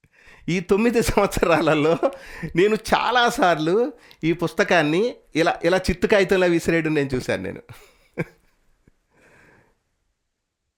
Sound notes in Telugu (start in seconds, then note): 7.7 నవ్వు